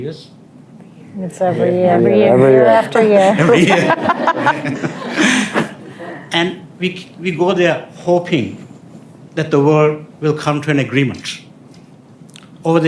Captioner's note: laughter